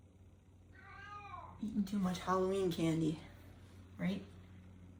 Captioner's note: Chaz meowing